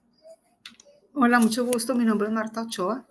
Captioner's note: speaking spanish